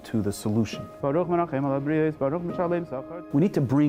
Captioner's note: praying in Hebrew